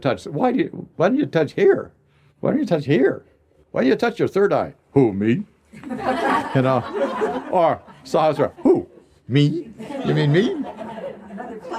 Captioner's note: laughter